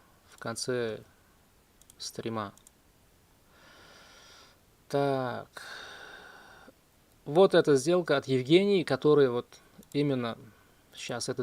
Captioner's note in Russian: вздыхает